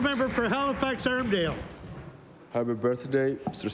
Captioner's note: applause